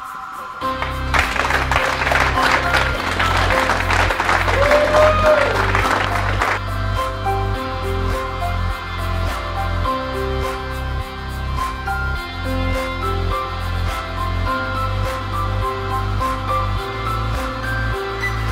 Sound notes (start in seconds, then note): 0.6 applauding and cheering